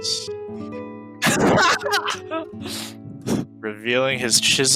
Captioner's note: laughing